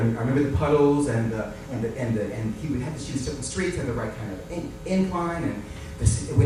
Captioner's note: stammers